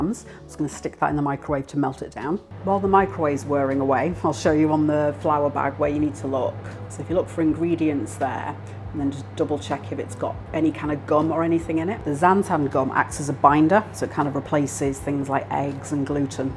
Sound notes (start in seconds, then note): 2.3 microwave whirring